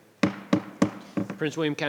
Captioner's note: gavel thudding